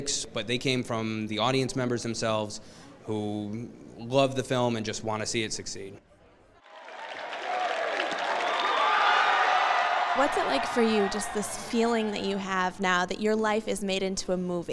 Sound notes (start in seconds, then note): 12.2 cheering